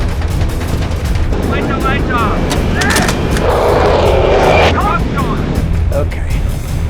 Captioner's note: speaking in German